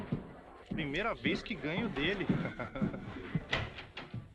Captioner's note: laughs